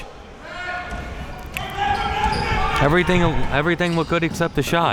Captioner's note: coaches yelling